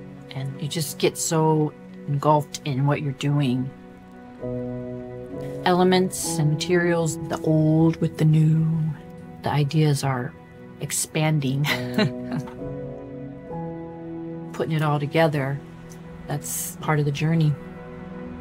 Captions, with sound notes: And you just get so engulfed in what you're doing. Elements and materials, the old with the new, the ideas are expanding. (giggling) (rising orchestral music continues) Puting it all together, that's part of the journey.